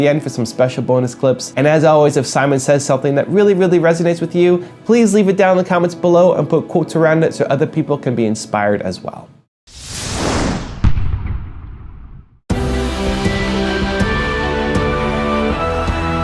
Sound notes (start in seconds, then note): 9.7 Whooshing electrónico